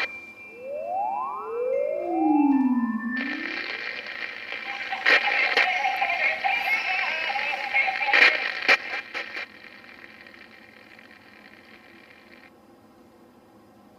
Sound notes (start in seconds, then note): 0.0 high pitch sound; 2.4 static noise